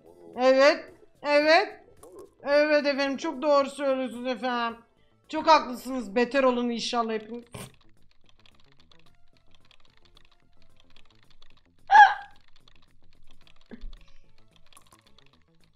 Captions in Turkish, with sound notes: Evet. Evet! Evvett efendim çok doğru söylüyosunuz efenim. Çok haklısınız. Beter olun inşhallah hepiniz. (gülme)